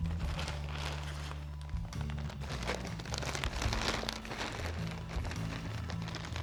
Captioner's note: bag crinkling; soft music